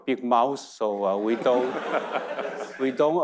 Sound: audience laughing

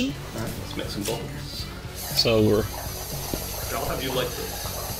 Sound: bubbling

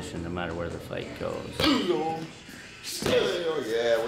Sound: grunting

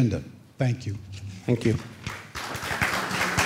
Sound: applause

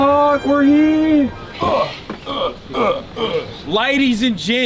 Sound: turkish grunts

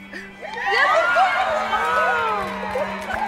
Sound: cheering

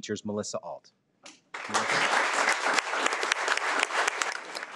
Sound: audience clapping

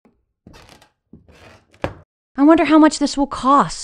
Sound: floor creaking

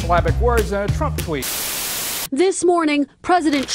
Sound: Static

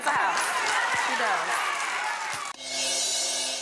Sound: audience clapping; upbeat music

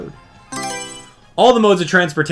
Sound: Mario Selection Sound

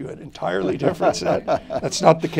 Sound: laughter

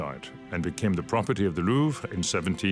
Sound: speaks French

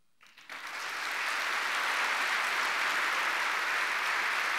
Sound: audience clapping

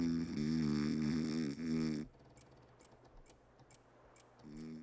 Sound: clock ticking

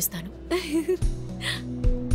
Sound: chuckles

